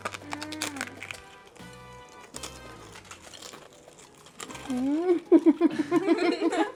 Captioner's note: crunch noises